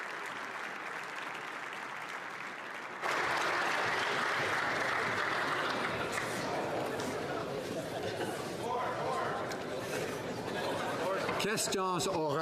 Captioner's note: applause